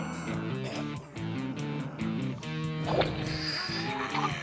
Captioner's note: choking